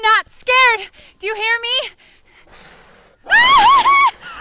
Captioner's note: gasping; Sarah screams